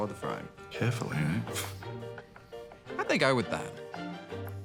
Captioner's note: scoffs